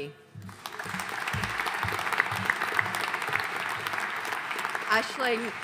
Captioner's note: audience applauding